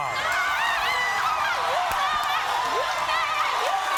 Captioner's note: audience erupts